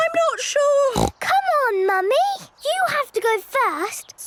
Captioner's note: snorts